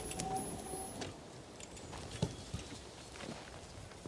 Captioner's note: heavy wind sound continues